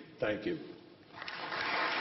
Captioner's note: applause